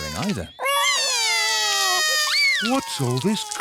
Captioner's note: both cry